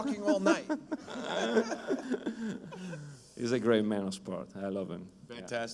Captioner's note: laughter